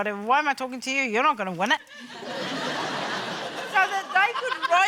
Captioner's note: laughter